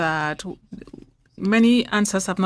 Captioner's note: speaking French